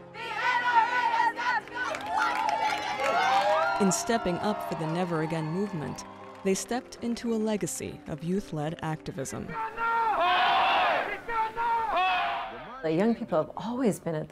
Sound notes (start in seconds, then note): 2.3 shouting and applauding; 9.5 crowd chanting